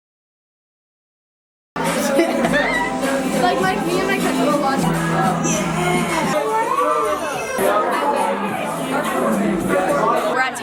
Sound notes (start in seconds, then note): 1.7 people chattering; 1.8 pop music